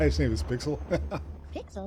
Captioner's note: laughing